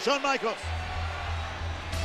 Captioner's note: applause